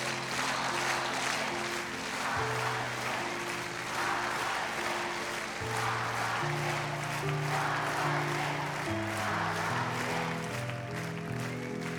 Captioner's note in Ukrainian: оплески